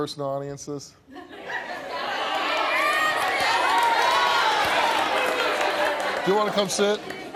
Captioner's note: audience laughing, yelling